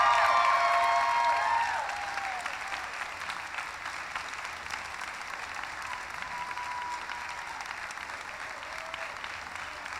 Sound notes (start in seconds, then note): 2.3 applause; 2.3 cheering